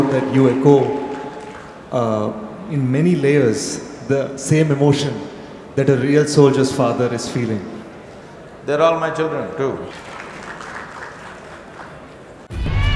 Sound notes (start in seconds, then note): 0.0 cheering/Applause; 9.8 applause